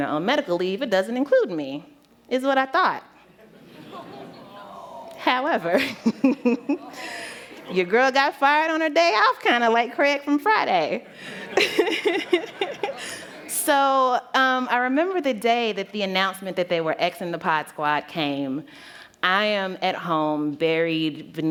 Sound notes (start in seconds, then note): 11.0 laughter